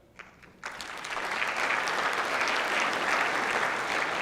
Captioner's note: clapping